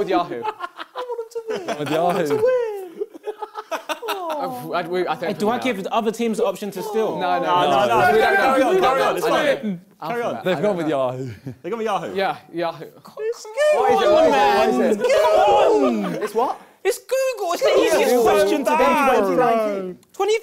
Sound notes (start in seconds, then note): 0.0 crowd laughing; 13.6 crowd mumbling; 17.6 crowd mumbling